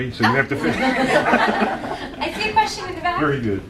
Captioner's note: laughing